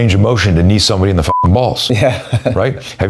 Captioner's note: beep